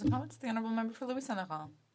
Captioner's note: speaking French